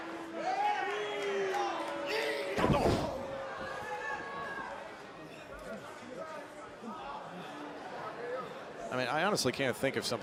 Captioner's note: crowd chatter